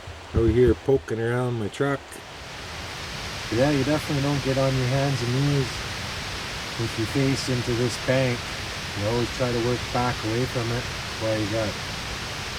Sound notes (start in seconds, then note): none